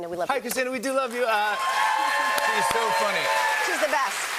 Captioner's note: cheers and applause